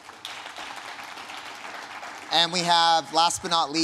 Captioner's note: audience applauding